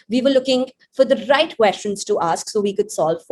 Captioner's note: none